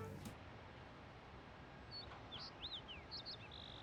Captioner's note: birds chirping